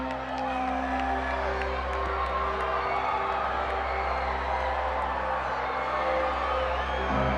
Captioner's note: crowd applauding; crowd cheering